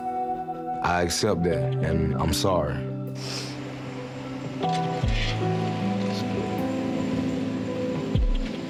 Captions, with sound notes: I accept that, and I'm sorry. (serene mournful music) (sniffles) Let's go.